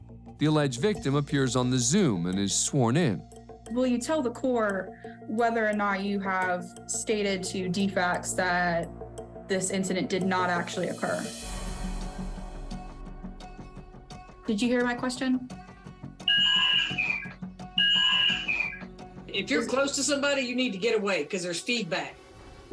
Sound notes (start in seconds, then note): 15.9 feedback whines